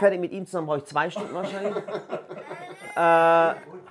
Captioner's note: Lachen